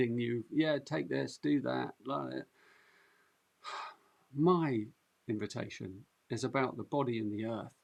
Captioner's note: sighs